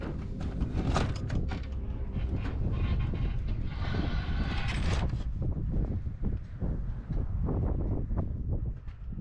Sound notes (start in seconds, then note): 0.0 suspenseful music; 3.1 wind rushing